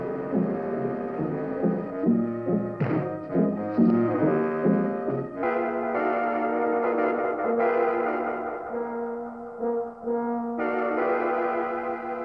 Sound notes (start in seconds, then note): 2.8 thump